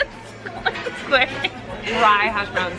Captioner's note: laughing